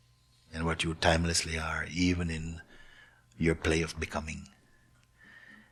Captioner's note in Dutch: none